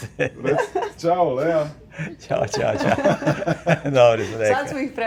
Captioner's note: laughs